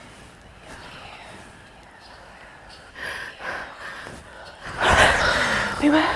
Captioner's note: haunting voices